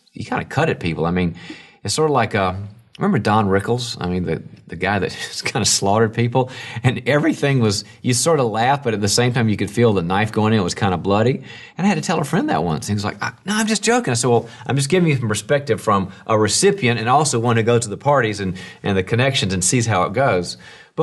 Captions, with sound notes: "you kinda cut at people." I mean, it's sorta like, remember Don Rickles? I mean, that guy that (laughs) just kinda slaughtered people? And everything was you sorta laugh, but at the same time you could feel the knife going in. It was kinda bloody. And I had to tell a friend that once, and he was like, "Nah, I'm just joking." I said, "Well, I'm just giving you some perspective "from a recipient and also one who goes to the parties "and the connections and sees how it goes."